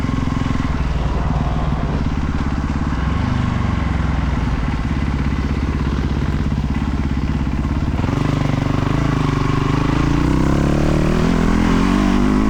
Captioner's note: engine revving